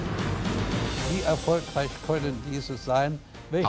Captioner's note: speaking german